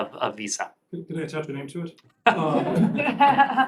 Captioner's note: laughter